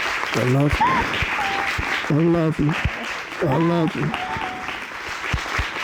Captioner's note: sobbing